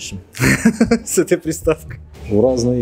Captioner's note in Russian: смеется